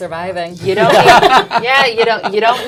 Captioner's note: laughs